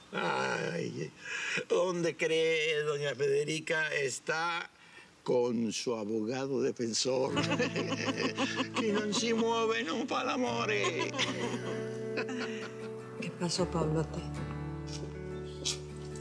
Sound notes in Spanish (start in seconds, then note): 7.3 Risas; 8.6 Habla en idioma extranjero; 10.7 Risas